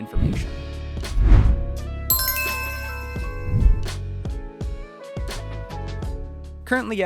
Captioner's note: logo swooshes; light upbeat music